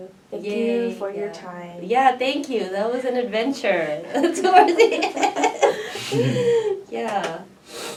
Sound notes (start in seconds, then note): 4.4 laughs; 6.7 all laugh